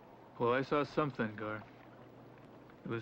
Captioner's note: none